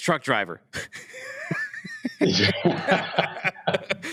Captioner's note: laughter